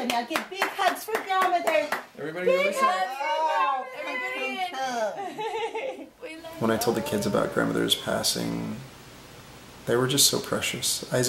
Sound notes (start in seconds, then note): 3.7 laughing